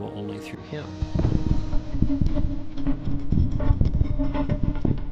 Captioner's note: stone rumbling